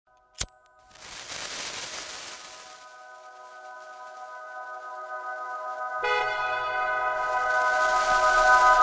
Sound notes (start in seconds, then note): 0.3 A lighter flips; 0.8 A sparkler fizzles; 6.0 A car horn